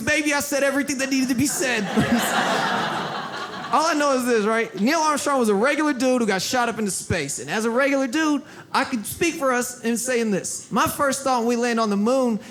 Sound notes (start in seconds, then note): 1.0 audience laughs